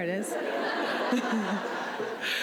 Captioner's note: laughs